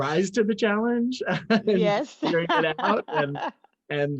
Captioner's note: laugh